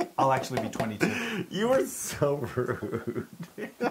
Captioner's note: laugh